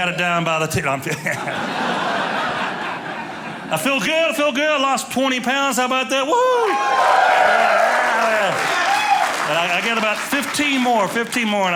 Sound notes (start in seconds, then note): 1.1 audience laughing; 6.4 audience cheering